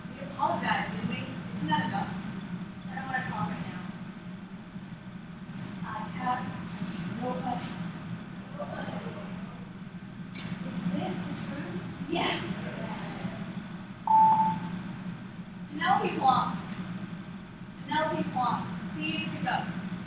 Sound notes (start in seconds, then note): 7.3 echoes; 12.2 echoes; 14.0 phone beeping